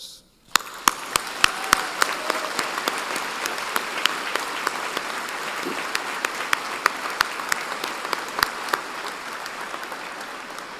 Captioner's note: applause